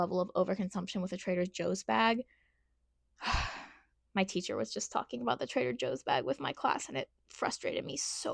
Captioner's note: sigh